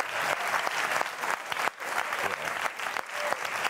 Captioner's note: cheering